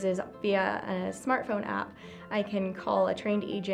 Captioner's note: none